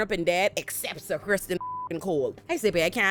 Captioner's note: beep